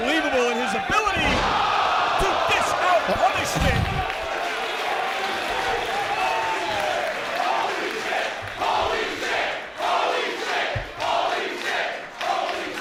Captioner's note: applause